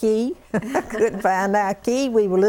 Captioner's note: laughter